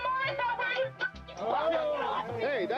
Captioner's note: all shouting